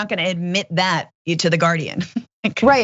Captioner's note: laugh